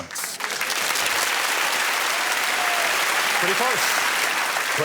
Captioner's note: applause